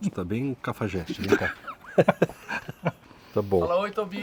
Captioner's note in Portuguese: Risos